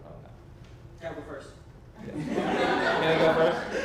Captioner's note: audience laughs